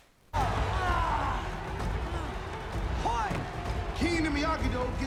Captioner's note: crowd cheering; dramatic music plays